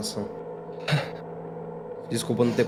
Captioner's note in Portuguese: suspiros